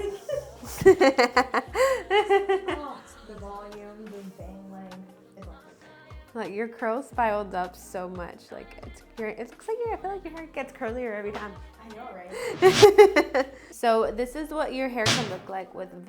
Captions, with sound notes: Okay, whenever you're ready. (laughs) Like your curls piled up so much. Like it's, it looks like your hair, I feel like your hair gets curlier every time. - I know, right?